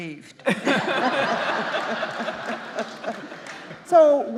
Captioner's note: audience laughing